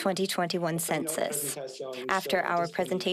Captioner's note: speaking French